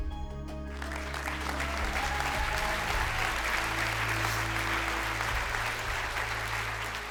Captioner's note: audience applauds; audience cheers